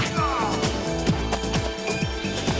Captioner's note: groaning